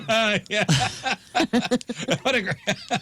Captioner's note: laughing